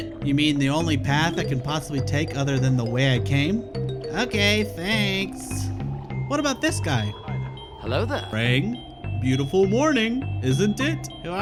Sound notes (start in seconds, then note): 3.6 In Aang's voice; 8.4 in old man's voice; 11.2 In Aang's voice